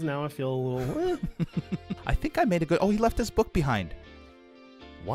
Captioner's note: giggles